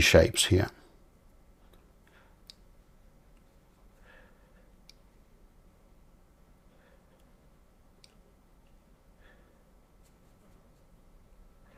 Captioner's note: silence